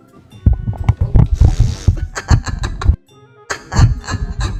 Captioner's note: sound of microphone getting bumped; slow-mo laughter; laughter